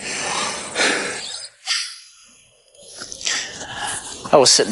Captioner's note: breathing heavily